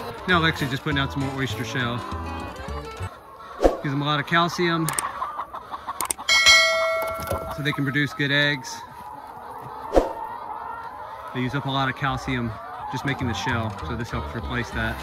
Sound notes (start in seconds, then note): 6.3 ding